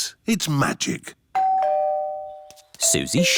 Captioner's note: doorbell